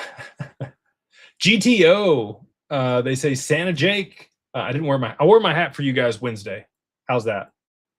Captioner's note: laughter